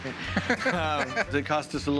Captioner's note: laughs